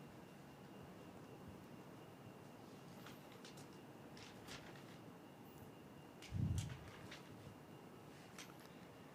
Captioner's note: papers rustling